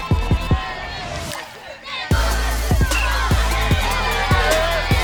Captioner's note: cheering